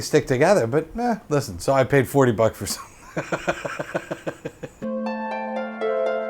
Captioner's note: laughs